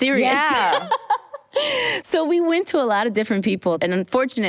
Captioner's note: laughs